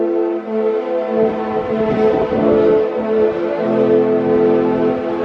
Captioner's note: ship horn plays a tune